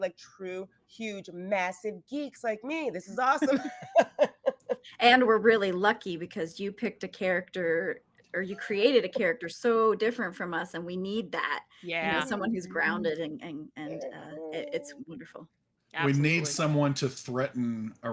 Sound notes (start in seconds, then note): 3.5 actors laughing